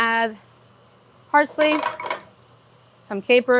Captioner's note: pan rattles